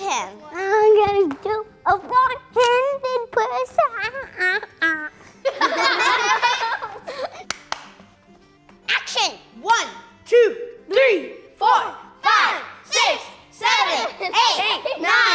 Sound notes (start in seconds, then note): 5.4 all laughing